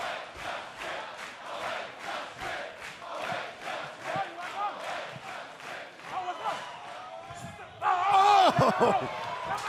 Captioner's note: fans chanting